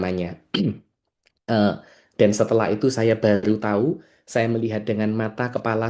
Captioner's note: berdehem